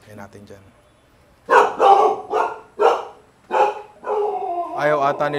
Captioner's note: dog barking